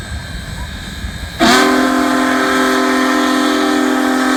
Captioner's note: horn blaring